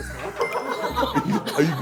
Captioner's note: cracking up